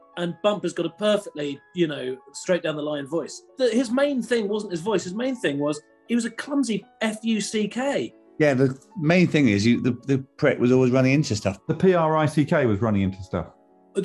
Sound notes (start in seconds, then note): none